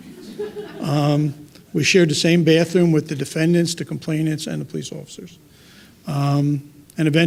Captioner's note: laughter